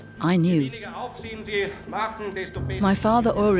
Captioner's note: speaks in foreign language